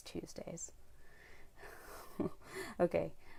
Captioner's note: chuckles